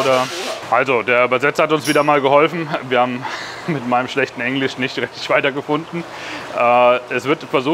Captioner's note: laughs